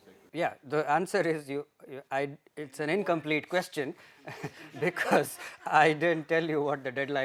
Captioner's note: laughter